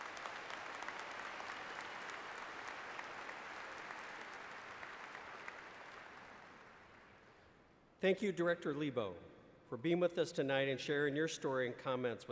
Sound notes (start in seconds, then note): 0.0 applause